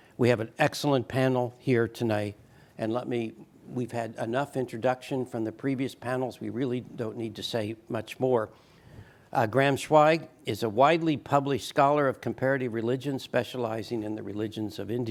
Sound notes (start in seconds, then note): none